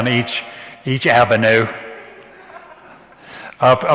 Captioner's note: audience laughs